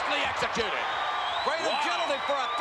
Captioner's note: spectators cheering